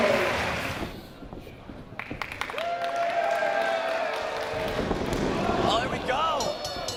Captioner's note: applause